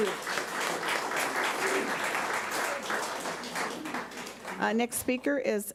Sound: audience applauds

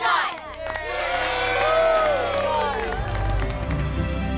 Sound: crowd cheers

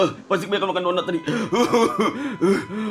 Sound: coughing

